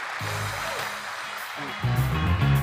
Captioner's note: applause